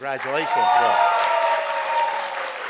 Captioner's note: audience cheers; audience applauds